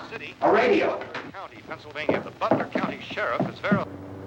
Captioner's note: radio; radio static